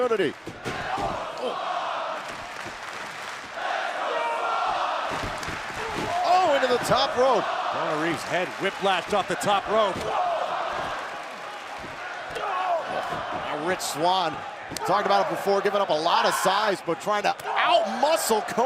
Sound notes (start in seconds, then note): 3.2 crowd cheering